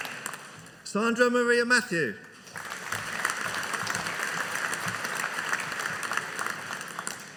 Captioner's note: audience applauding